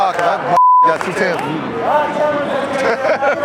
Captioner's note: beep; judge laughing